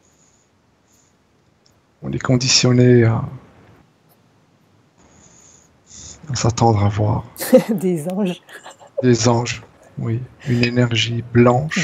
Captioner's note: laughs